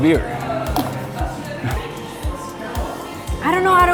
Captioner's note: laughing